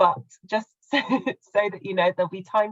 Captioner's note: laughing